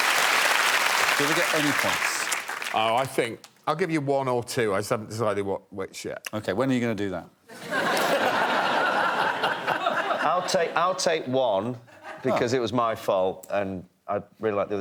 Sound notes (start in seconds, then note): 0.0 applause; 9.8 laughter